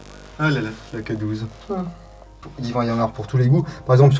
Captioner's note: sighs